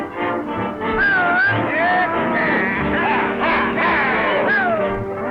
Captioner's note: cowboys prod and whistle